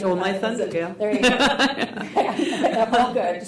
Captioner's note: laughs